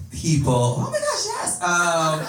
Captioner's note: laughter